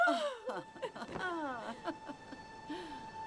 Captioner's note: Mrs. Bascom laughs; Ruth chuckles